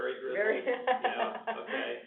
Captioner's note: laughs